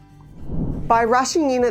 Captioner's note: screen whooshing